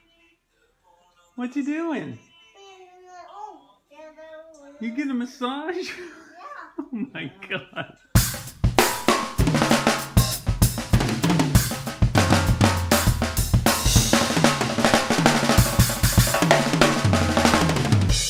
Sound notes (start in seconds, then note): 6.6 laughs; 8.2 drum solo